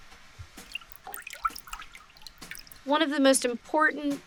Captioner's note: water drips